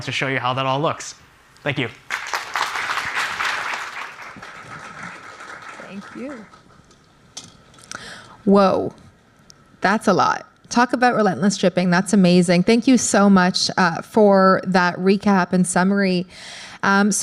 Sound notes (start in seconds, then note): 2.0 applause